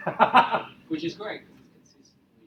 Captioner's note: laughing